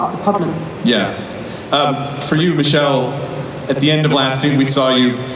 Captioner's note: voiceover